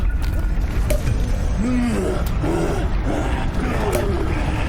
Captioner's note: growling